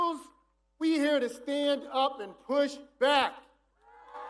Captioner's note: cheers and applause